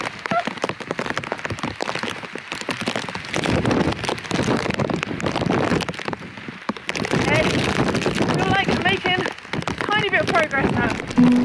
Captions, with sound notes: uh! [wind & rain] ok! I feel like I'm making a tiny bit of progress now